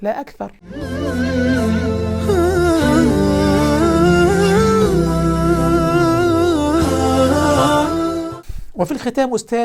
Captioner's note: logo and sound effect